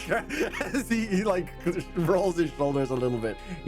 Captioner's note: laughing